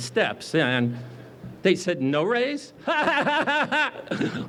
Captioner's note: laughs